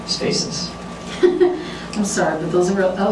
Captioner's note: chuckles